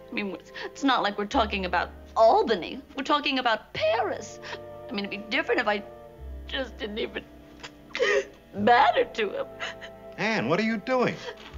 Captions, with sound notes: I mean, it's not like we're talking about Albany. We're talking about Paris. I mean it'd be different if I just didn't even [SOBS] matter to him. Ann, what are you doing?